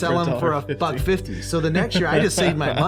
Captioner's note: laughing